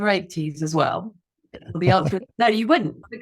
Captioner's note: laughs